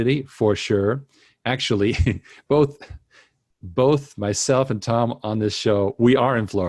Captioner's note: laughs